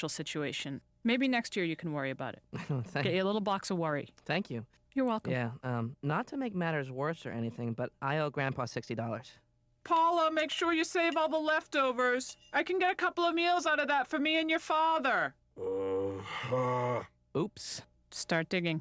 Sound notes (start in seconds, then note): 15.6 moans